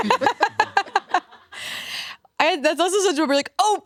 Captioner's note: all laugh